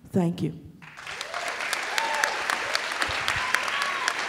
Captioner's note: crowd applauds